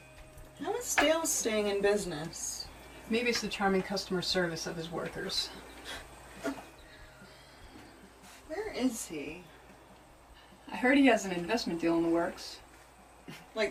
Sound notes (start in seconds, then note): 6.0 laughs